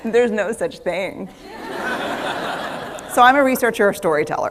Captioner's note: laughter